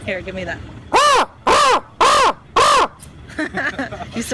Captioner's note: loud crow noises